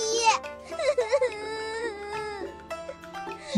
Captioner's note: sob sob sob